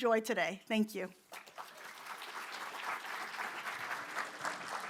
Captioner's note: applause